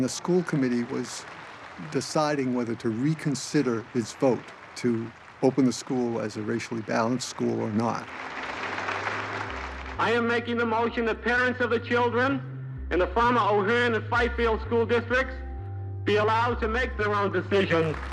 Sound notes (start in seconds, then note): 8.9 applause slows